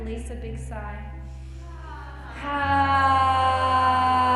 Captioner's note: all sigh